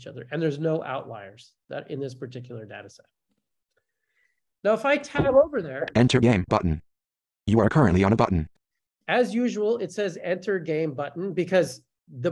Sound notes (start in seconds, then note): 6.0 voiceover